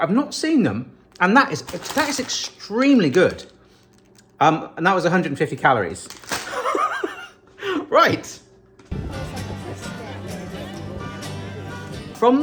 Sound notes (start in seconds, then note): 6.5 laughing; 8.9 upbeat music